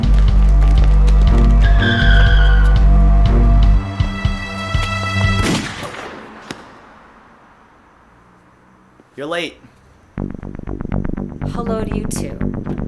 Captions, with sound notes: (tires screeching) (gunshot) You're late. Hello to you too.